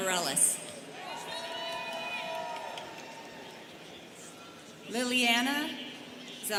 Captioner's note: students cheering